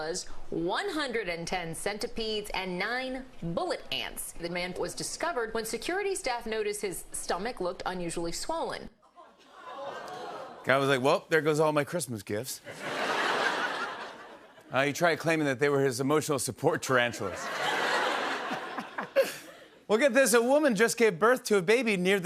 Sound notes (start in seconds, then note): 8.9 audience groans; 12.6 laughter; 17.2 laughter